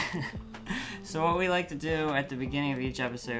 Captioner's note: laughs